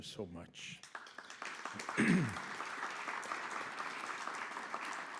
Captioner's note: audience claps